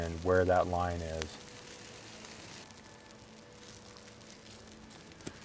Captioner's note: fire crackling